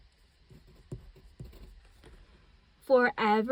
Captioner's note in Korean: 사각 사각 만년필